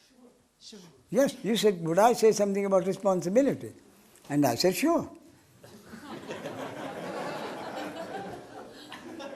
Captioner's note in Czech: smích